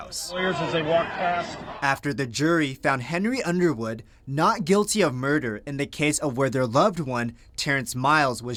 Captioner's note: family members screaming at defense attorney; family members screaming at defense attorney